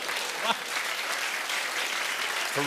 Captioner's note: applause